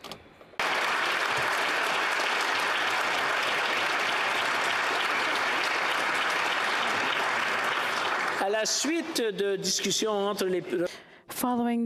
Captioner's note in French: applaudissements